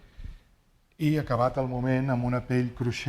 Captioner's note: speaking spanish